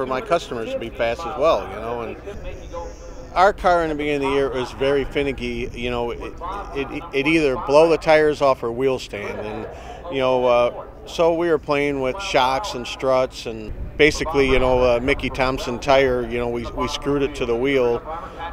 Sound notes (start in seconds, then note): none